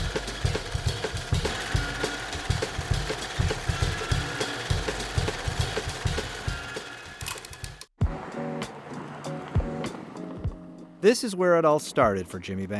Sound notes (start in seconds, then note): 3.6 film reel clicks; 4.4 uptempo music